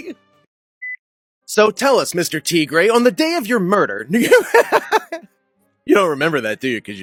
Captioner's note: laughter